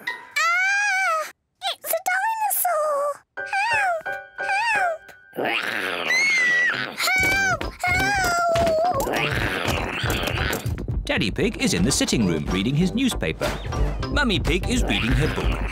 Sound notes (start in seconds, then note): 5.4 snarls; 5.6 screams